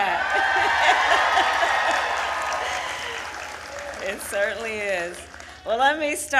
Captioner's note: applause